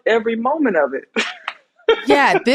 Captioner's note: laughs